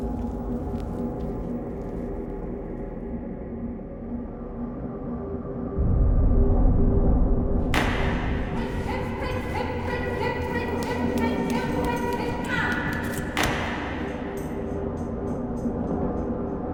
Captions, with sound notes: [Bang] - Left, right, left, right, left right, left! [Bang]